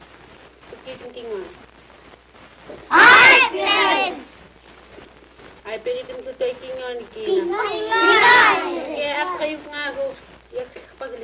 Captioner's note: children reply to teacher in Yup'ik